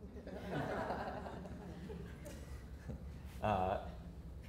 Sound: audience laughter

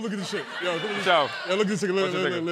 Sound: laughter

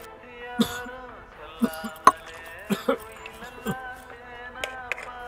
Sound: coughs

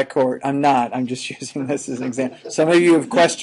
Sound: chuckling

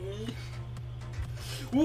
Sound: inhale

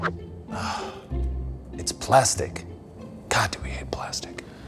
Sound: sighs

